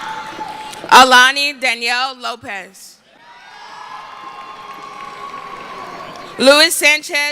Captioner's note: cheering